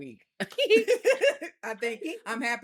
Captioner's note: laughs